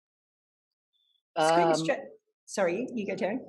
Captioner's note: group chatter